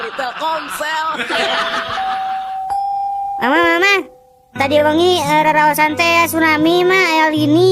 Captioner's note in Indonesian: tertawa